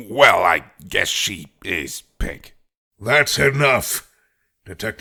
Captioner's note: none